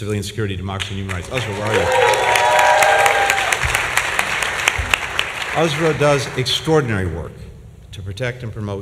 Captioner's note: applause